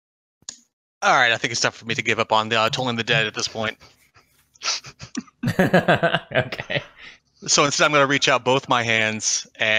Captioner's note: laughs